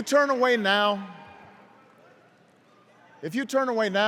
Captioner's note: cheers and applause